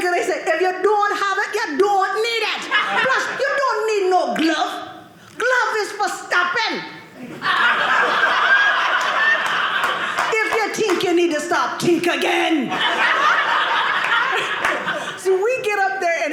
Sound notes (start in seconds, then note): 7.2 audience laughing; 12.4 audience laughing